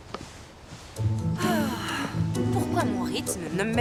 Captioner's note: sighs